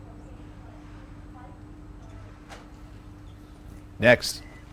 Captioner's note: people chattering